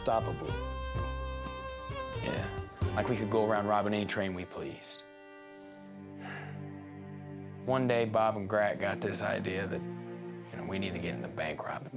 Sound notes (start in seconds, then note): 6.1 sighs